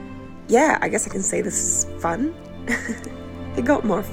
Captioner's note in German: lacht